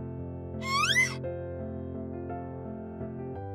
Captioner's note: hen clucking; beanstalk squeaks; gentle piano music